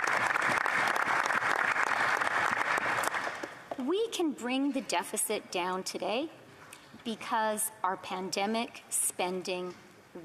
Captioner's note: applause